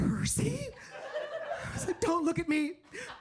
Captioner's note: audience laughs